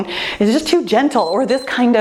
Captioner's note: timer beeps